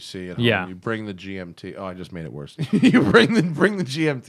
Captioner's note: laughter